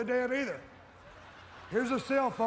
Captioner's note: audience laughs